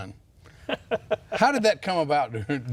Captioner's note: laughing